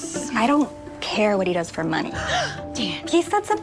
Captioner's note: gasps